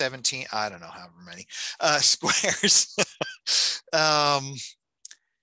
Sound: laughing

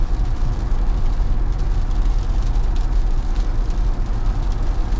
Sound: raindrops

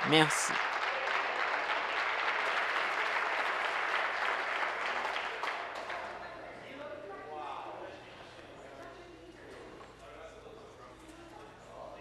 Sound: applause

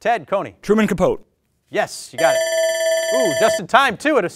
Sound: alarm rings

